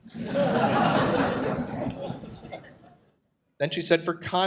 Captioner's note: audience laughs